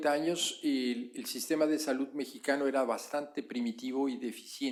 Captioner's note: spanish